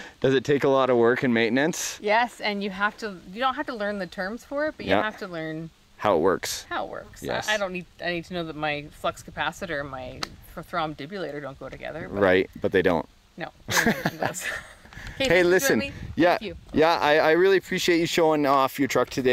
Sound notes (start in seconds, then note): 13.7 laughing